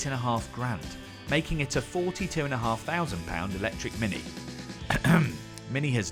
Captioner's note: clears throat